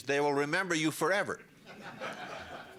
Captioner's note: laughter